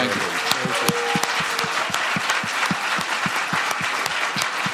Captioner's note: applause